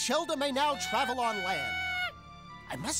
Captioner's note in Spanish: emocionado